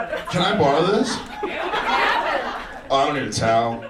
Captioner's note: audience laughs